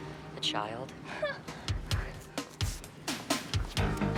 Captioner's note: upbeat music; laughs